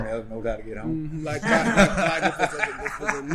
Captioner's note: men laughing